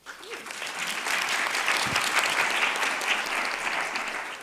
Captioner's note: audience clapping